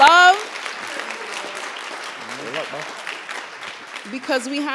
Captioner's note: applause